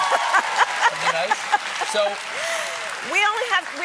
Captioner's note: cheers and applause